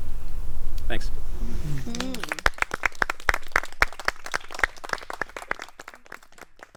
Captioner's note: murmurs of approval; applause